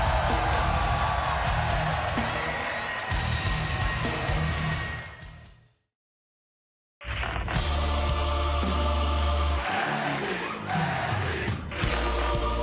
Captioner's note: crowd cheering